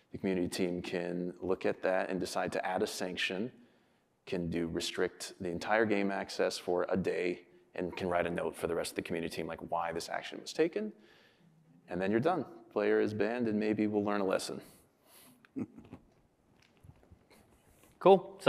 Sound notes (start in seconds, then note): 15.5 chuckles